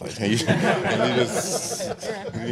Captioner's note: laughing